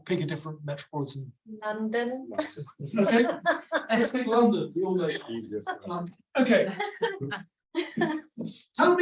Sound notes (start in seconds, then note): 2.3 laughs; 6.8 audience laughs